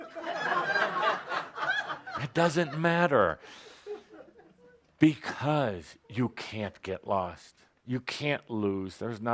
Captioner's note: laughter